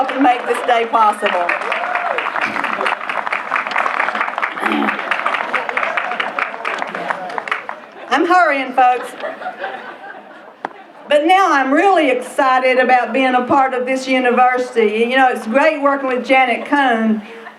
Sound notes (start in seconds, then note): 1.6 applause; 8.8 laughter